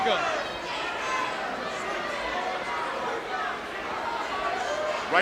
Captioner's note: crowd cheering